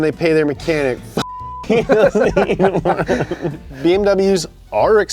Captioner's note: beep